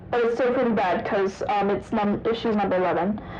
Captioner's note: none